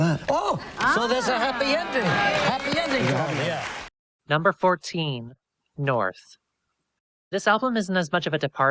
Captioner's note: audience cheers